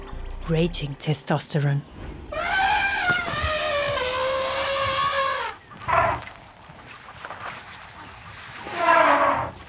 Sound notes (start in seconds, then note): 2.3 trumpeting; 2.4 animals calling